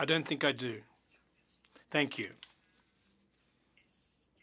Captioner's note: speaking French